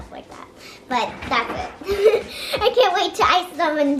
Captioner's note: giggles